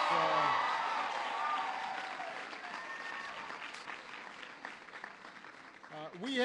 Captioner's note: applause